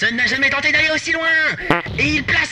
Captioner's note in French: prout